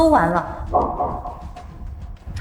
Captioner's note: heart beating fast